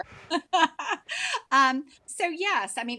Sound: laughing

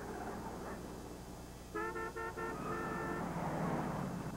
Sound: honking

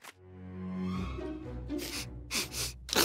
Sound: sniffing

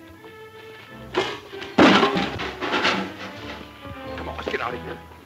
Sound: loud crash

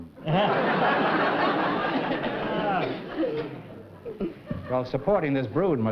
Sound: laughter

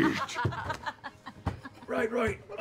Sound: laughing

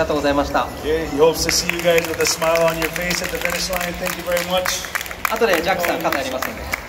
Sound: applause

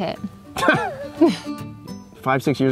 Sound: laughs

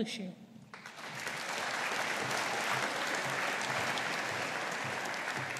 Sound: audience applauding

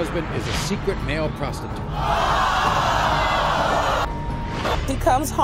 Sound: audience groaning

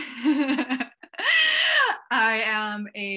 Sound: laughs

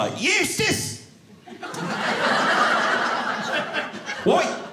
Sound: audience laughing

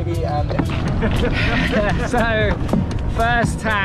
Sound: more laughs

